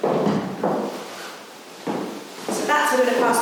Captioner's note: footsteps